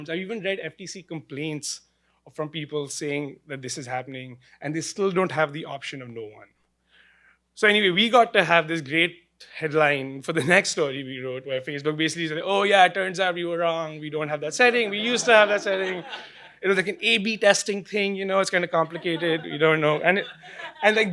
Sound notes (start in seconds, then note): 14.6 laughing